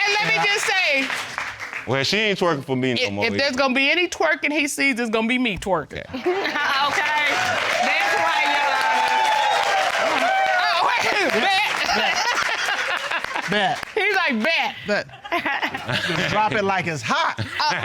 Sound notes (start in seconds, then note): 6.6 chuckling; 9.3 audience cheering